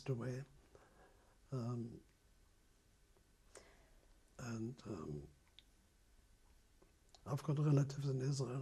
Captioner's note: pauses for 3 seconds